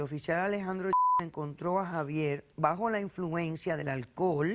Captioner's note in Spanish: Bip